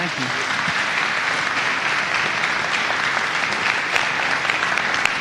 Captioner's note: audience applauding